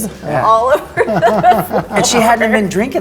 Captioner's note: laughter